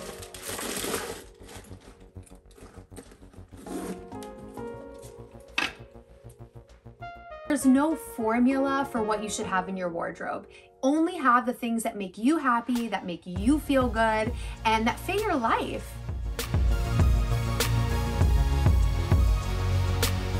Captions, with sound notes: (bubble wrap rustles) (zipper zips) There's no formula for what you should have in your wardrobe. Only have the things that make you happy, that make you feel good, and that fill your life. (upbeat music continues)